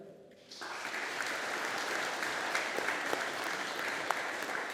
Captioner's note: audience applauding